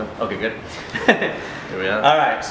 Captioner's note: laughs